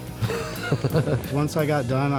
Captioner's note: laughs